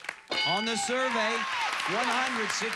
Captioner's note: audience applauding